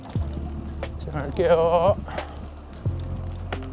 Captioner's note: speaking Korean